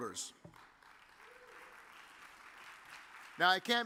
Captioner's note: audience applauds